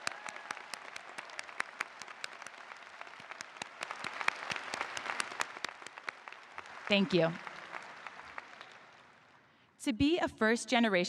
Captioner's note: applause